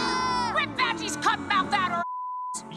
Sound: beep

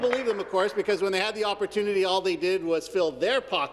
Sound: some Applause

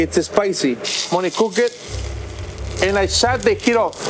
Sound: oil sizzling

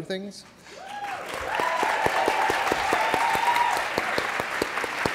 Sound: applause

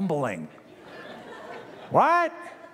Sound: laughter

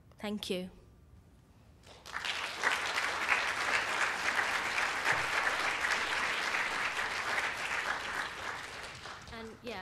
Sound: applause

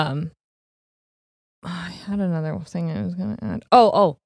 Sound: whispers

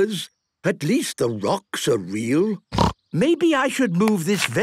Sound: snorting

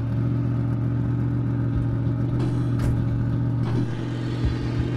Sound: car engine roars

